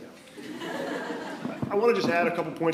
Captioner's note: attendees laughing